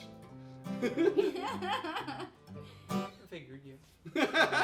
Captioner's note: laughing